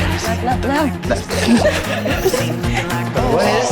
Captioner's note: all laughing, exclaiming